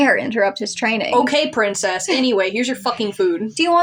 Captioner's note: chuckle